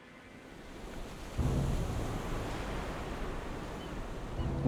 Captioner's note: distant waves crashing